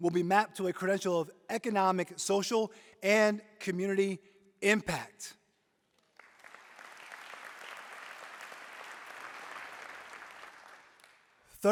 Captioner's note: applause